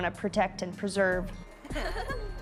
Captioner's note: laughter